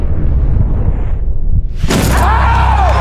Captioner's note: dunk sound; cheers